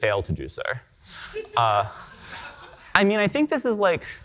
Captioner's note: audience laughing